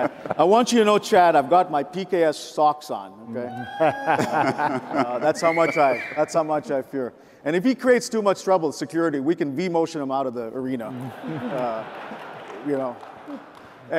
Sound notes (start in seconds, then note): 0.0 men laugh; 3.4 cheers; 5.4 whistles; 10.9 audience applauds